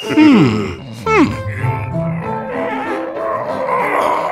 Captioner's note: struggling noises